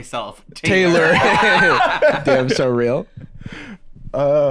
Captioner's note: all laughing